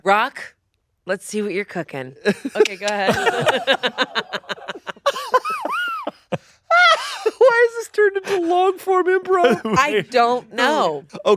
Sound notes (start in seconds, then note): 2.3 laughs; 4.4 laughing